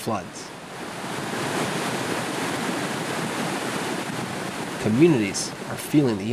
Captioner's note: water rushing